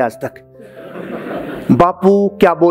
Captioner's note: laughing